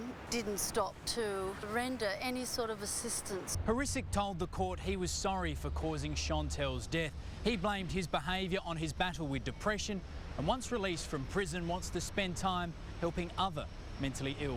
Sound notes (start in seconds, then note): none